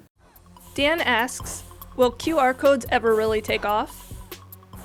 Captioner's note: voiceover